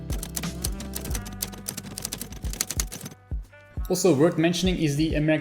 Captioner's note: keys clacking